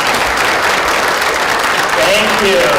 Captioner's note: applause